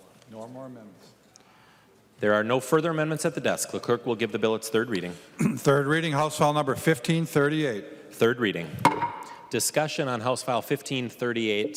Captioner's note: chorus of ayes; gavel